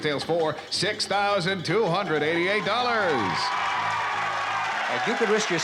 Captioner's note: cheering